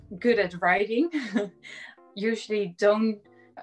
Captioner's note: chuckles